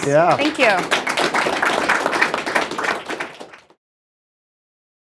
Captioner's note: audience clapping